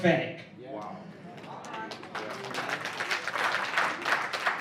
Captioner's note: applause